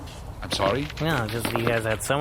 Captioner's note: makes annoyed nonsense noises